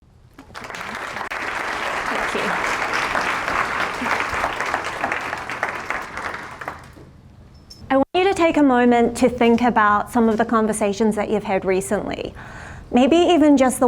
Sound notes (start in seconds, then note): 0.3 applause